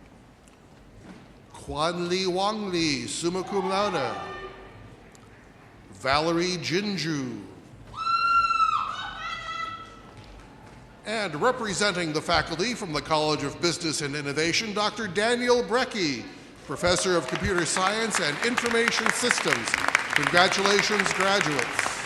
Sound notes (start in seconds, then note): 7.6 woman shouting